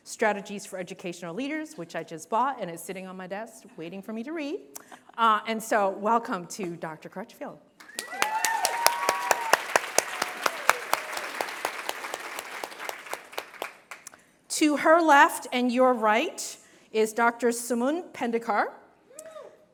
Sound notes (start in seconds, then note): 7.8 applause; 18.0 cheers